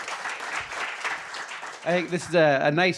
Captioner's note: audience applauding